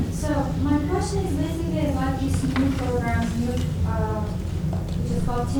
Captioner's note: faint speaking off mic